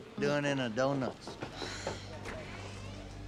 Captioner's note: sighs